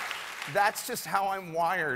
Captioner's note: cheers and applause